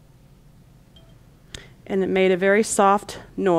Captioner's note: pen chimes softly